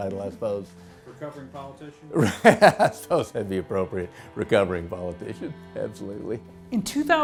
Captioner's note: laughs